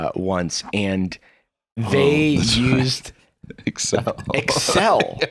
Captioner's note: laughing